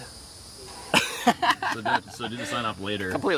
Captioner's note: laughter